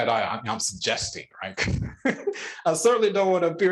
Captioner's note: laughing